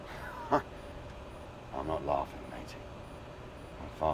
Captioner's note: chuckles